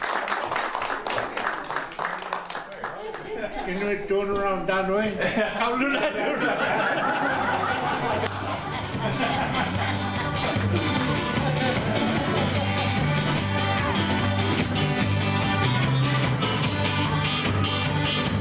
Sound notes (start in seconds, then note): 5.2 laughter